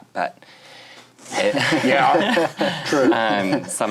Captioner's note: all laughing